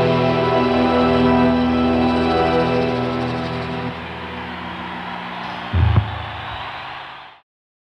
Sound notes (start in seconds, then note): 3.6 crowd cheering